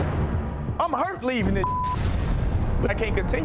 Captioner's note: beep